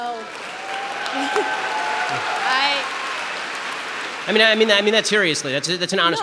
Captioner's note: audience applause